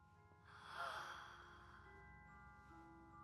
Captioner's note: gasps